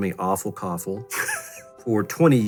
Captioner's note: laughs